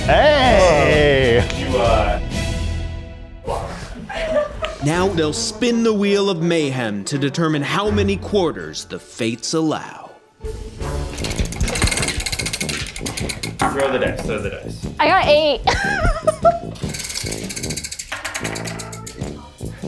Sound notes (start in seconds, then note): 1.2 suspenseful music; 11.1 wheel clicking; 15.6 laughs; 16.7 wheel clicking